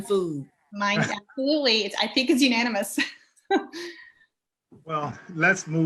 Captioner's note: chuckles